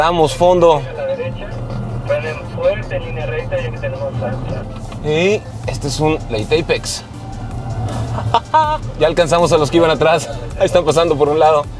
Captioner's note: laughter